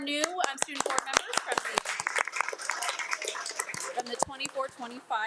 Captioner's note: audience applauding